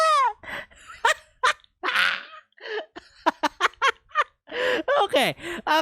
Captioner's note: laughs